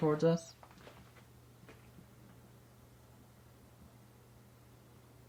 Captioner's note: shoes clopping